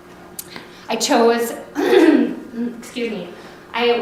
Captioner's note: clears throat